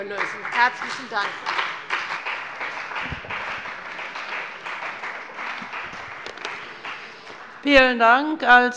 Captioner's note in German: Beifall bei der CDU und dem BÜNDNIS 90/DIE GRÜNEN